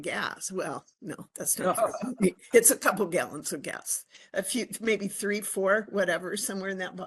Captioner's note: laughing